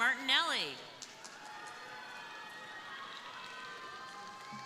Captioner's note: crowd applauding